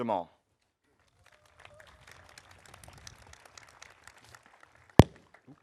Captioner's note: audience applauding